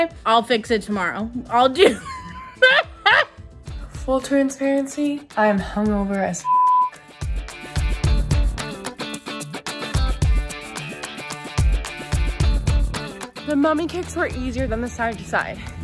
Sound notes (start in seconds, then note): 1.8 laughs; 6.4 beep; 7.4 upbeat music